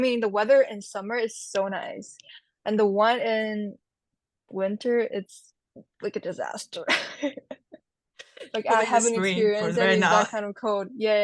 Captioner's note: laughs